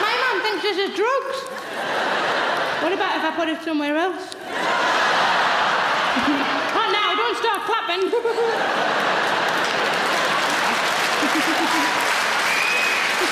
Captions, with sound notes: My mom thinks this is drugs. What about if I put it somewhere else? (audience laughing) Not now, don't start clappin'. (laughing) (audience clapping)